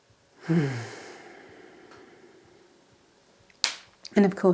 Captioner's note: exhales deeply